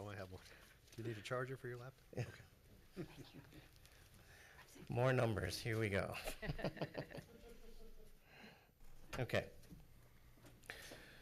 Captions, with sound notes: - Do you need a charger for your laptop? - Yeah. More numbers here we go. (laughs) Okay.